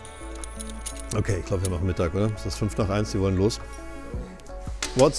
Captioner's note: speaking in German